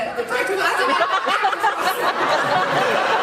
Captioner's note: laughs